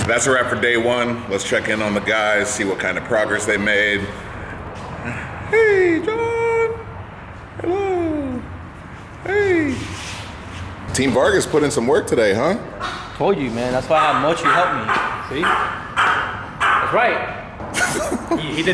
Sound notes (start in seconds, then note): 5.4 high pitched voice; 15.5 dog barking